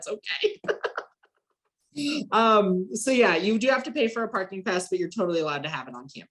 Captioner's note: laughs